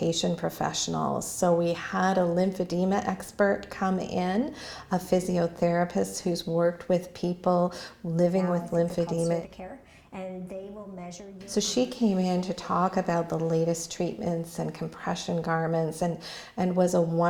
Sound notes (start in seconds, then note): 9.8 voice of physiotherapist in the background